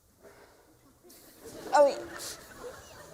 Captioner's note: laughter